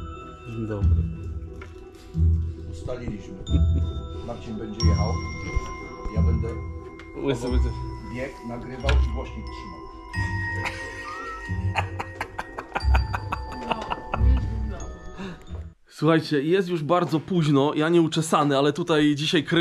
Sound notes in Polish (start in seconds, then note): 10.5 śmiech